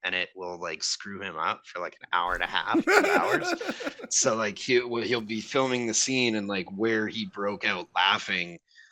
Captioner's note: starts laughing